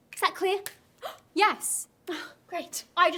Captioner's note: gasps